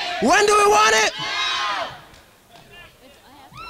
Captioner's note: crowd